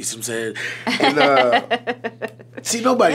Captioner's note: laughing